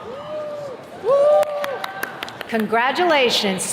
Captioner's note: attendees cheering